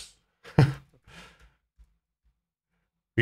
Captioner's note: laughing